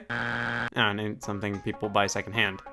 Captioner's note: buzzer beeps